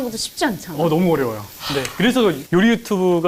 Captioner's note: sob